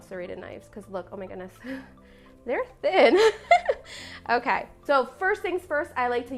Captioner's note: laugh